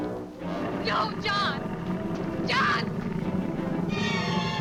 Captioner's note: Elaine screams; dramatic music